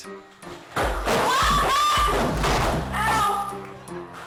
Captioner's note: woman yelling